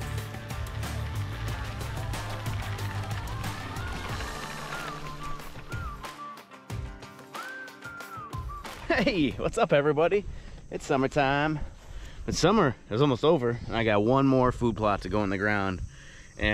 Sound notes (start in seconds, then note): 2.8 seeder rumbling